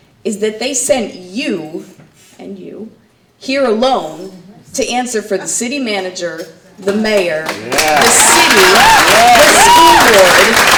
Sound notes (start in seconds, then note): 7.1 audience clapping